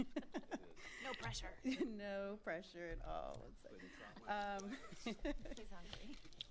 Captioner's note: laughter